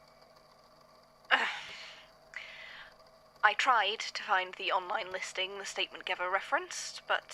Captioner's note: groans